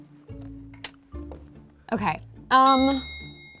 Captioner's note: bell clicking sound